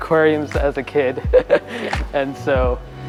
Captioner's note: laughs